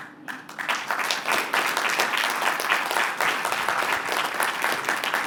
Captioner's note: applause